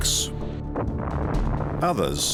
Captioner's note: explosion